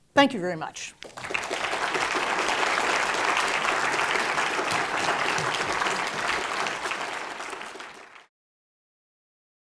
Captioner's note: applause